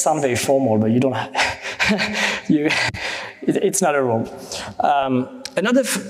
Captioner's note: chuckles